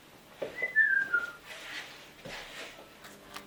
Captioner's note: whistling